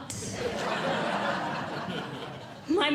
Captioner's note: audience Laughing